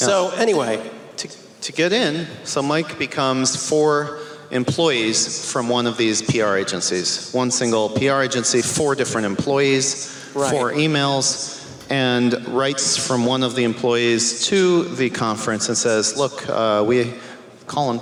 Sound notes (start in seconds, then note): none